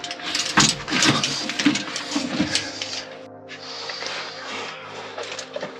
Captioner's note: footsteps and heavy breathing